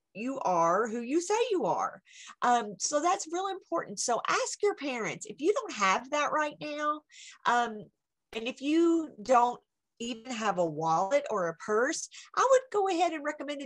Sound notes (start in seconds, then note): none